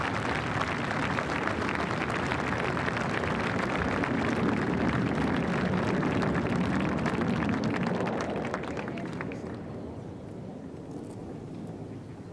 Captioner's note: applause